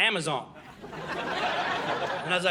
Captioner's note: audience laughing